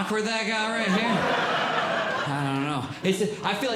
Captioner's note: audience Laughing